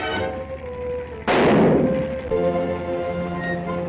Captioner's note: gunshot